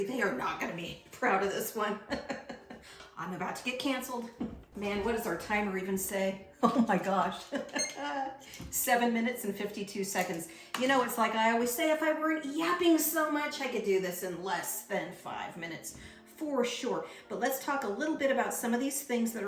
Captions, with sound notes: they are not gonna be proud of this one. (laughs) I'm about to get canceled. Man, what does our timer even say? Oh my gosh. (laughs) (timer beeps) Seven minutes and 52 seconds. You know, it's like I always say, if I weren't yapping so much, I could do this in less than five minutes for sure. But let's talk a little bit about some of these things